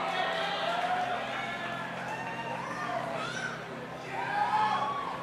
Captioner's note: audience applauding and cheering